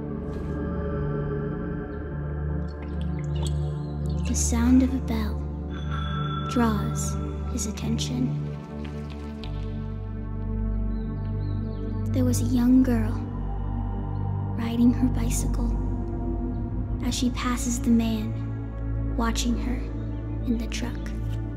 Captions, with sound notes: (eerie music) The sound of a bell (bell ringing) draws his attention. There was a young girl riding her bicycle as she passes the man watching her in the truck.